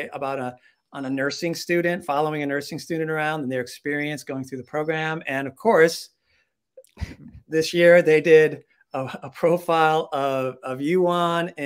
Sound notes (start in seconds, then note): 6.9 chuckling